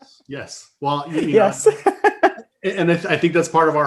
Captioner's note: laughing